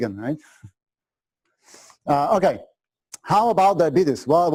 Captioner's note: pause